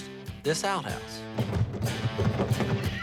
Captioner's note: banging; laughing